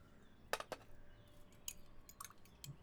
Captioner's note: utensils cling